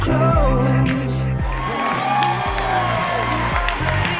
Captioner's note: cheering